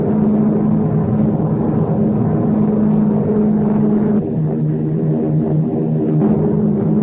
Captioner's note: plane engines roaring continues